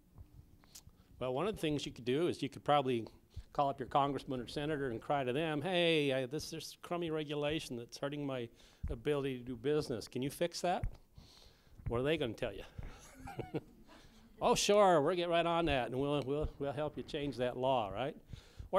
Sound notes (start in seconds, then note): 12.9 laughter